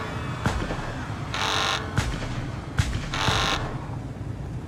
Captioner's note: crashing; alarm buzzing